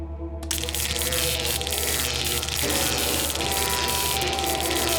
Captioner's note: zapping